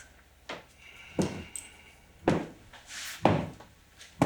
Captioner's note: boots stomping